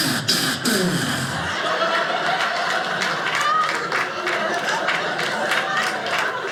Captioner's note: audience laughing